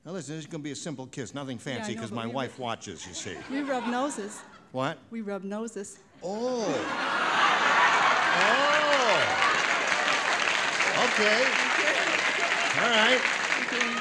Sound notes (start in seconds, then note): 6.5 laughter; 7.8 applause